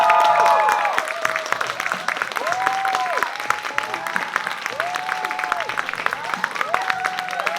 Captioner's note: uproarious applause